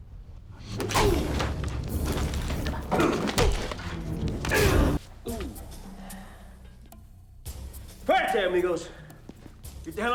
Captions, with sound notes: (punch thuds) (gangster groans) (tense music) - Right there, amigos.